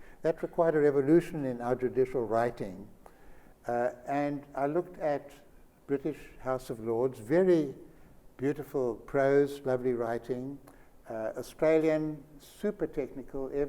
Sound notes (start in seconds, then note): none